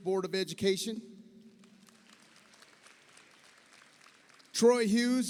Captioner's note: audience applauds